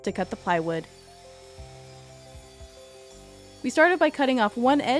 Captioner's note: drill whirs